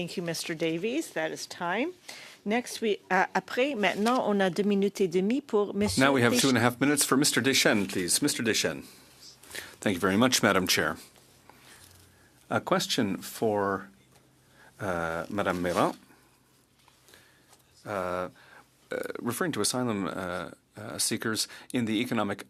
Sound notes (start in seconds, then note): 7.5 speaking French